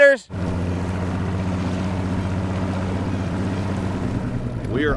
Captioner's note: engine revving